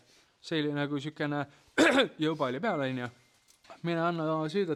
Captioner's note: coughs